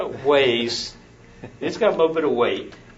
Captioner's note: laughs